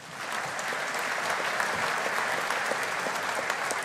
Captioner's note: audience applauding